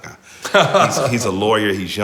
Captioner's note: laughing